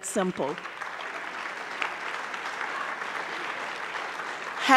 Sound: audience clapping

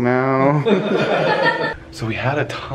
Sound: laughs

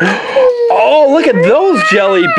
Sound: gasps

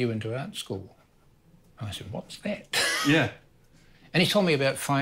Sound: laughs

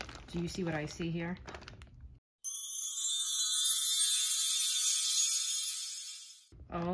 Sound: magic twinkly sounds

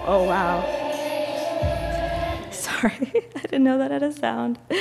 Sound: laughs

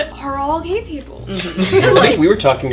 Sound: laughter

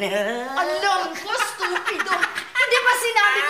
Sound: chuckles; laughs

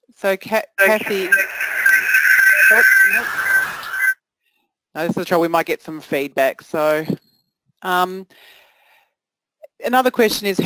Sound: feedback whine

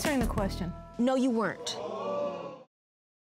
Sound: audience gasps

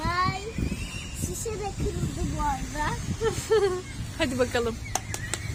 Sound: ihihihi

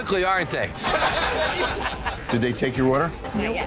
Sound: customers laughing

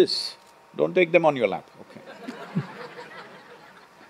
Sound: laughter

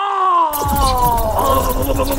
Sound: sci-fi buzzing

